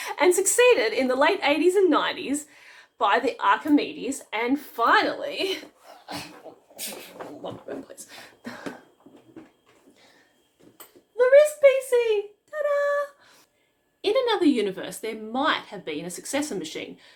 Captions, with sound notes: and succeeded in the late 80s and 90s by the Archimedes and finally... *sounds of struggle* ...the RiscPC! Ta-da! In another universe there might have been a successor machine